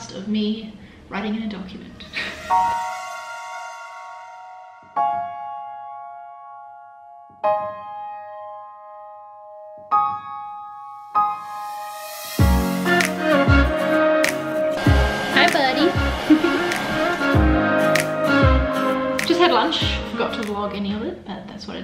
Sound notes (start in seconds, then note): 2.0 lively music; 15.2 whirring; 16.9 lively music